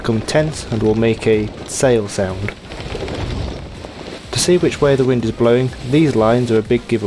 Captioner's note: canvas in wind sound